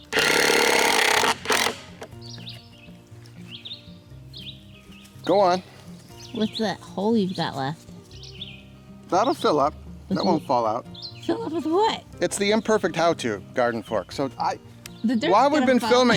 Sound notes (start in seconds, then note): 0.3 rattling; 2.6 birds chirping; 15.8 laughs